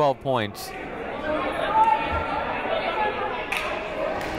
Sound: shouting

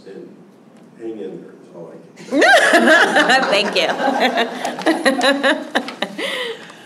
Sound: laughter

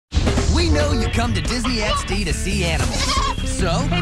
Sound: goat noise

